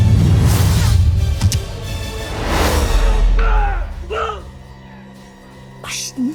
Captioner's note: arrow swooshes; growling; ominous music playing